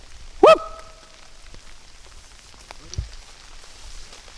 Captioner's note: whooping